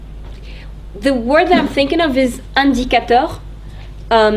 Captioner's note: speaking in French